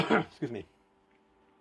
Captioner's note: coughs up a lung